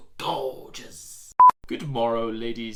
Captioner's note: beeping sound